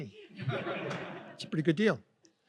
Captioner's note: audience laughs